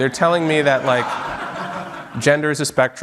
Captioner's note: audience laughing